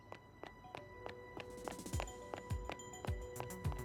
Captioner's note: running steps